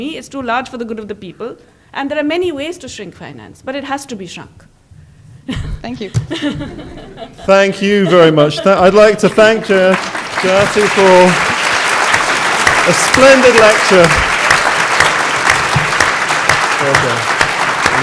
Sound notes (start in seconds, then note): 6.1 laughter; 9.7 background Applause